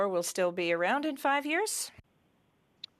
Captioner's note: speaking French